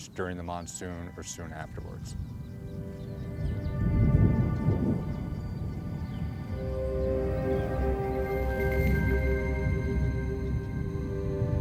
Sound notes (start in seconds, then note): 3.1 light music; 3.7 thunder rumbling